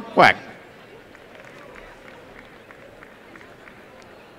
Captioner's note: applause and cheering